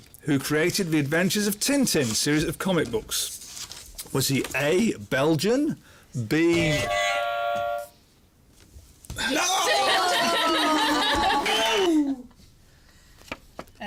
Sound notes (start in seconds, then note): 6.7 buzzer; 9.3 laughter